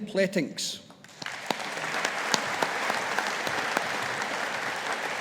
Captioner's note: audience applauding